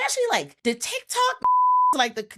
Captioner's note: beep